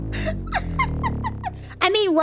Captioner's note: Ironmouse laughs